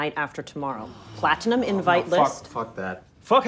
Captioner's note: group sighs